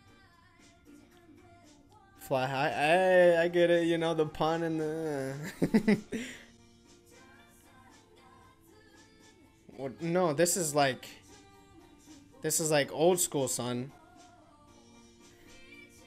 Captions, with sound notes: "Fly high." Ay! I get it. You know, the pun and... (chuckles) What? No, this is like.. This is like old school, son.